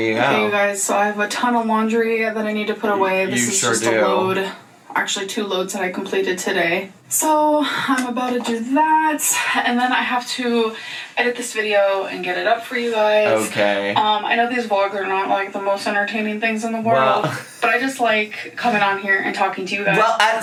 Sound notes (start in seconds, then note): 17.0 laughs